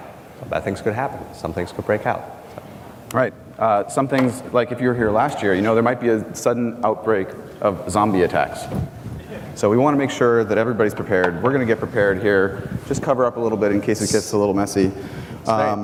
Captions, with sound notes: and bad things could happen. Some things could break out, so. - Right, some things, like if you were here last year, you know there might a sudden outbreak of zombie attacks, (Audience laugh) so we wanna make sure that everybody's prepared. We're gonna get prepared here. Just cover up a little bit in case it gets a little messy.